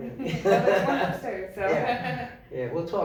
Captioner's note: laughing